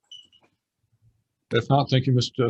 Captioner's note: silence